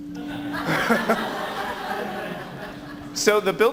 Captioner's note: audience laughs